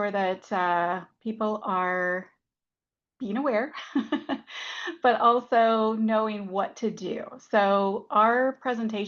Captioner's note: laughs